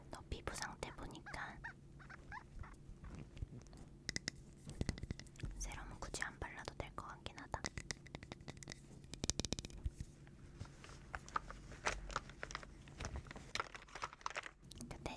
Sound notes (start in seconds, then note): 10.6 rummaging